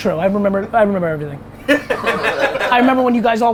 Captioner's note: group laughter